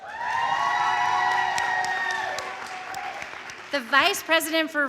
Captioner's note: audience cheering; audience applauding